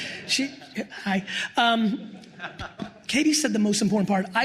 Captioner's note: crowd laughs